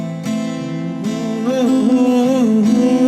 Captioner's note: humming